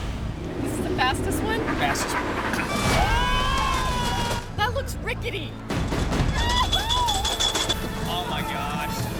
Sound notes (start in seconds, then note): 2.6 people screaming